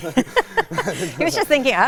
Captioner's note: both laugh